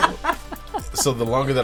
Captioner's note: laughing